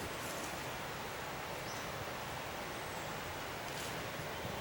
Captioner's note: birds singing